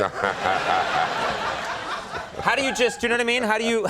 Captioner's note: laughs